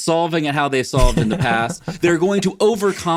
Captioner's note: laughs